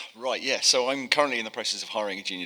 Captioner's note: sighs